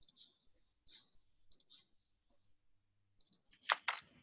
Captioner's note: clicking and shuffling